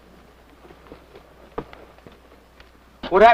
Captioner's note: footsteps